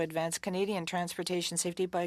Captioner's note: speaking French